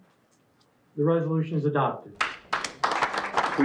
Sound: applause

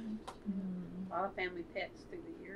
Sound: laughs

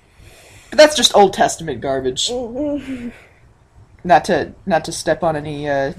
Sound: inhales

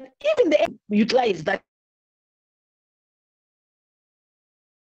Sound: audio distorts

